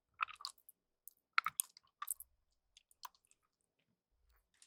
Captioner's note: chew chew